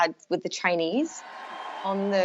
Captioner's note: cheering